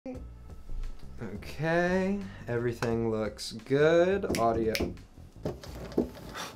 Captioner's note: snaps fingers